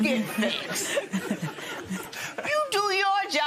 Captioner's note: laughter